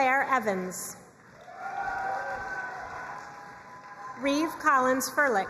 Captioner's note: crowd cheering and applauding